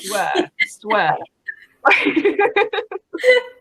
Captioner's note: laughing